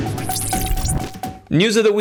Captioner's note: metallic beeping